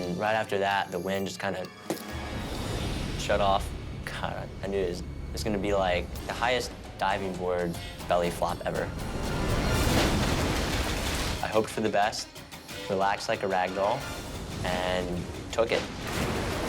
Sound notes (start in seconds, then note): 9.2 water splashes